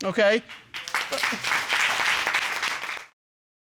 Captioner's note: applause